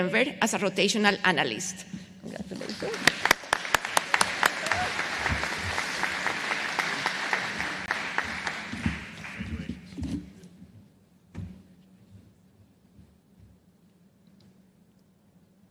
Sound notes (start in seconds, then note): 4.3 applause